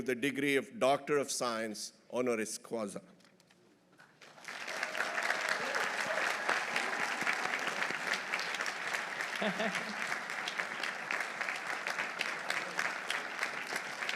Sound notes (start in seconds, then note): 4.1 audience applauding; 4.4 audience cheering; 9.3 dignitary laughs